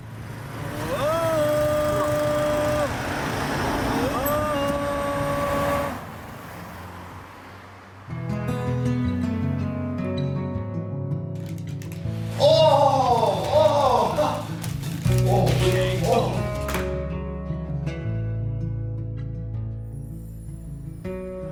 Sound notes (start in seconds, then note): 0.2 trying to sing; 12.4 cheering while playing